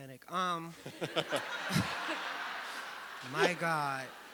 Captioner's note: audience laughing